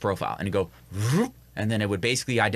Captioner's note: imitates whooshing